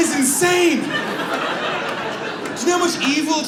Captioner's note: audience laughs